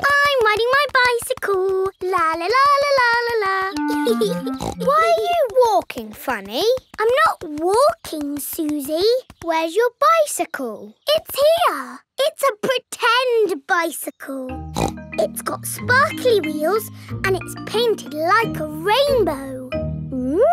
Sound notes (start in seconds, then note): 3.9 laughs and snorts; 14.7 snorts